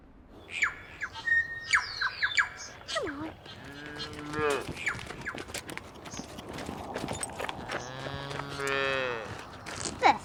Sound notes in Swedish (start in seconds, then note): 0.5 fågelkvitter